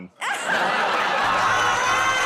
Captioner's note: laughter